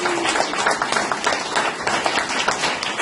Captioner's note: applause